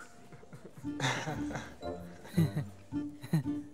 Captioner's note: Giggles; Fake laughs